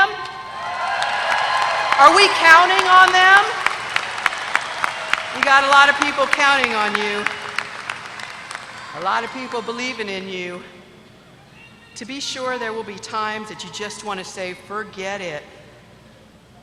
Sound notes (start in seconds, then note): 0.6 applause